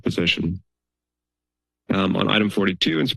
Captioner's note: pause